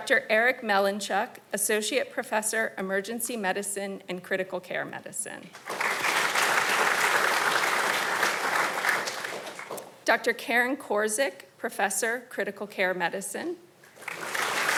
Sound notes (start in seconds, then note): 5.5 audience applauding